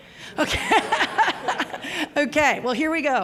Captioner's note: laughter